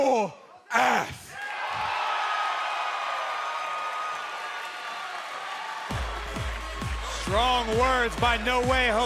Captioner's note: cheers and applause